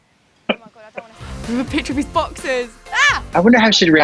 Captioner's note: laughs